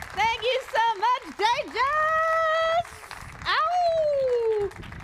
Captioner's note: applause